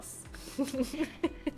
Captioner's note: laughs